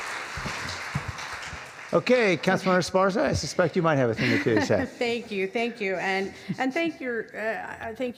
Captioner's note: clapping